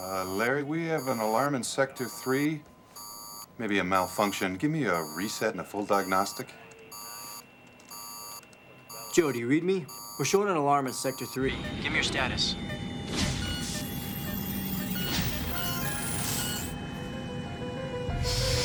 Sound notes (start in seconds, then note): 6.6 alarm; 12.7 alarm; 13.5 bell; 14.8 alarm